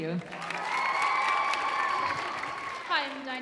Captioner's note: audience cheering